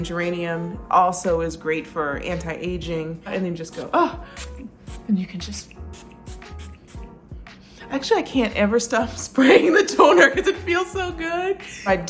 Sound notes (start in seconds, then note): 4.2 gasps